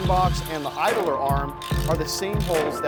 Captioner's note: drill motor spinning; socket wrench clicking